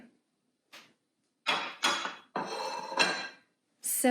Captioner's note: plates clanging